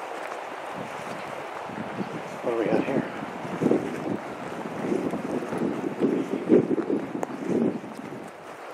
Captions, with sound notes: (wind whooshes) (stream flowing) What have we got here? (wind whooshing)